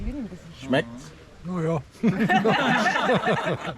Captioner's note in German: Gelächter